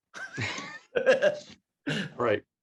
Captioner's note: laughing